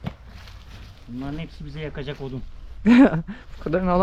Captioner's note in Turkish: kahkaha